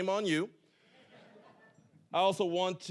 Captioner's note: audience laughing